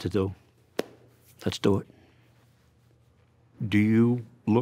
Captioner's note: clap